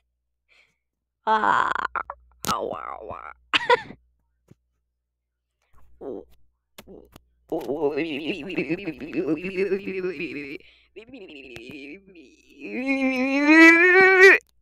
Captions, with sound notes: oʷʷʷʷʷʷʷʷ oｗｏｗｏｗｏｗｏｗｏｏｗ *giggles* *proceeds to break into frog noises* *frog noises intensify*